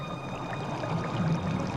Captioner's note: water bubbling